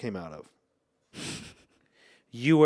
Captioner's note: laughs